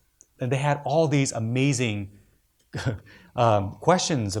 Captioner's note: laughs